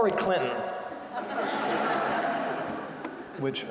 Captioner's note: audience laughing